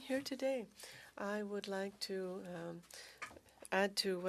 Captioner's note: speaking French